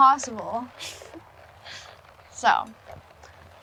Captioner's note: Renee chuckles